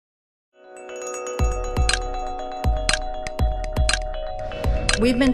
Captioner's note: light upbeat music; air whooshing